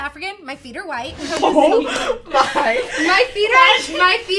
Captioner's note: laughing